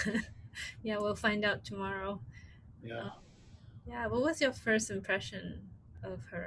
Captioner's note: laughs